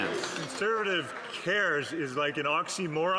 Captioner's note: some Applause